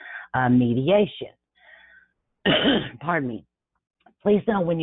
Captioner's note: coughs